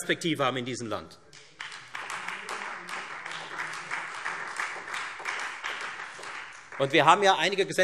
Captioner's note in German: Beifall Freie Demokraten